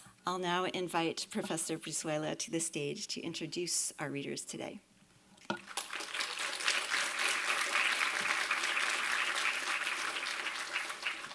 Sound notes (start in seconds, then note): 5.6 applause